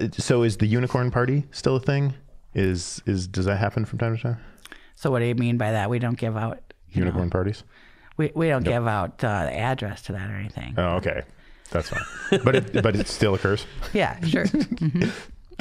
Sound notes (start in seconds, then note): 11.8 laughing